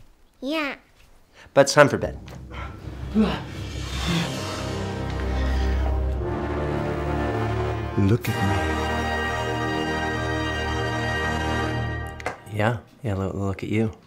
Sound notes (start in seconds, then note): 2.0 grunts; 2.8 ominous music